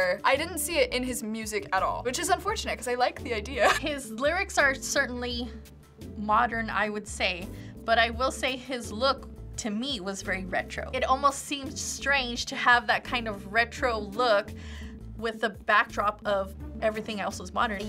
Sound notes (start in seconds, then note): 3.6 chuckles